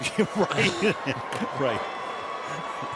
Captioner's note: laughs